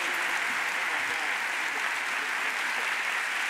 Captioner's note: audience applauds